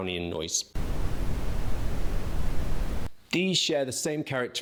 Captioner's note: static blaring